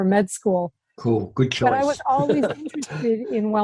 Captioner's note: laughs